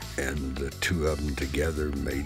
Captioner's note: none